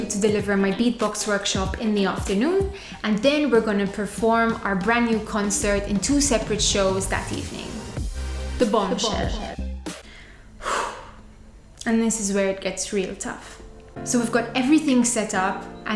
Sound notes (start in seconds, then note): 10.0 deep breath